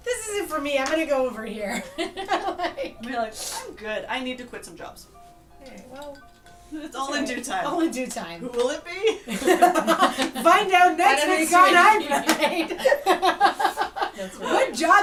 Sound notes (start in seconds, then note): 9.1 laughter